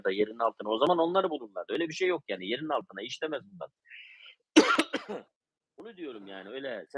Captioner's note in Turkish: öksürme